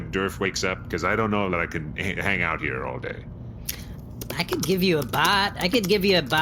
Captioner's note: typing